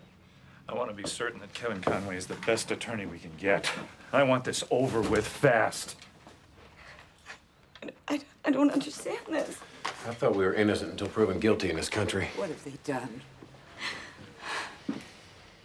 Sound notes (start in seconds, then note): 13.7 sobs